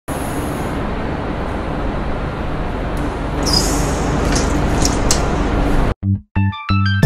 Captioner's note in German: Bus Geräusche; Intro Musik